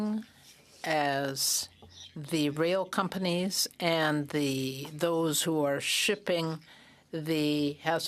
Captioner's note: speaking French